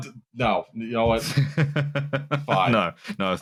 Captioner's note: chuckles